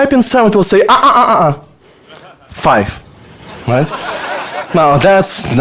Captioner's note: audience laughter